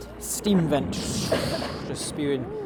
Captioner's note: bubble bubble